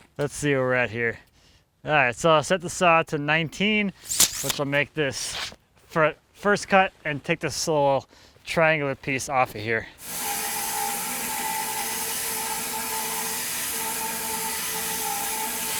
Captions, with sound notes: Let's see where right here. All right, so I'll set the saw to 19, which will make this first cut and take this little triangular piece off of here. (electric saw screeching)